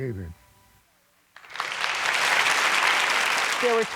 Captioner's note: applause